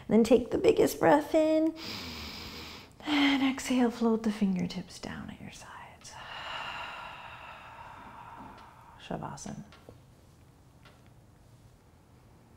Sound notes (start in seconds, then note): 6.2 exhaling